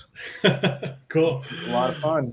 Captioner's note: laughs